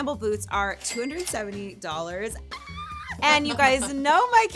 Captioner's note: cash register chiming; screaming